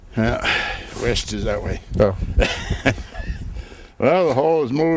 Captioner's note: laughs